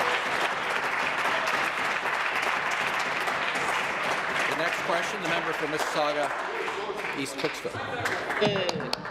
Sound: applause

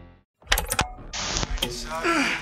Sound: old TV pops to life

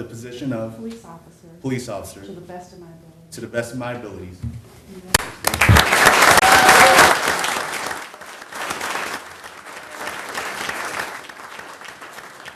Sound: applause

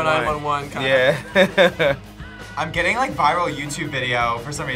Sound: chuckles

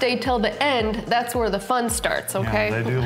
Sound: laughing

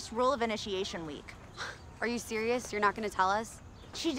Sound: scoffs

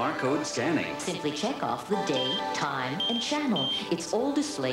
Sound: beeps as codes are scanned

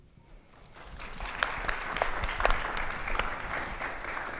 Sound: audience applauds

